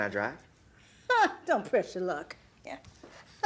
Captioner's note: laughs; Ernestine laughs